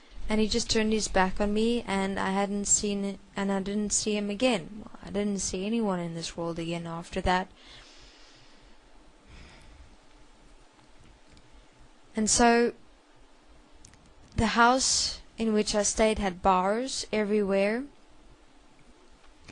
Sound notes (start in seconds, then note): 9.3 sigh